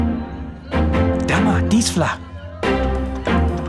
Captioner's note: upbeat orchestral music; speaks in another language